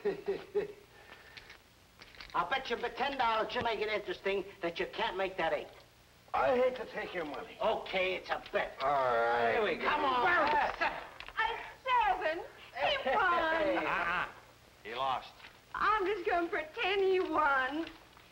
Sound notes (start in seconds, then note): 0.0 man chuckling; 10.3 dice rolling